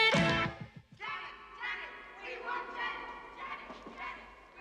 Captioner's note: Зрители скандируют